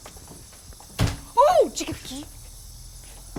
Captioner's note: crickets chirp; door slams